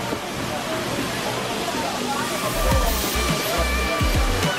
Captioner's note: muffled background chatter; water running